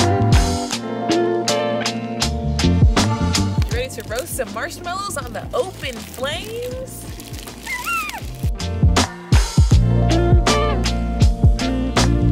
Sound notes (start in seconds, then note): 7.6 squeals; 8.7 mellow music